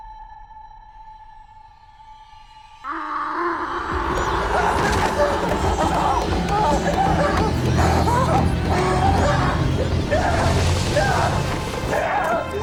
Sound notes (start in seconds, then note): 3.9 roaring; 6.4 gasping